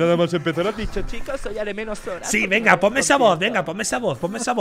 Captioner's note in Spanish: voz de burla